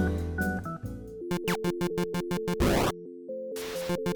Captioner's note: video game sounds